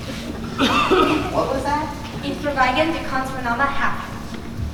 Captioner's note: foreign Language